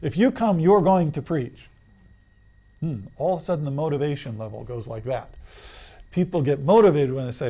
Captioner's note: sucks in breath